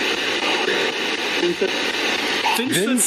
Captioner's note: SB7 chattering